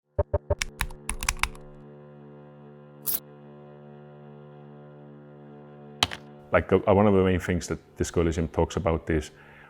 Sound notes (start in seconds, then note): 0.4 graphics clacking; 0.5 solemn music